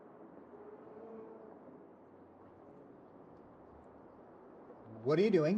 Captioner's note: traffic rumbling faintly